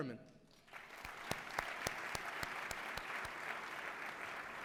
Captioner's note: applause